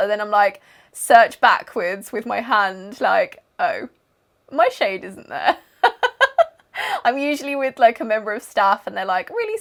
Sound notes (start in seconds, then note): 5.8 laughing